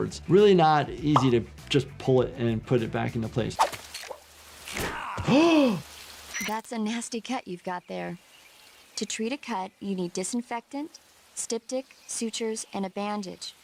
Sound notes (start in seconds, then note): 3.8 tripwire rattles; 4.6 gasps; 4.8 Snake grunts